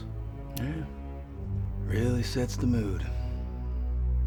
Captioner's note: says sarcastically